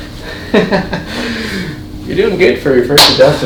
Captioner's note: chuckles